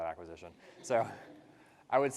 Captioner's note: participants laugh